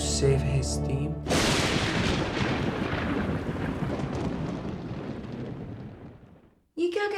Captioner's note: lightning Impact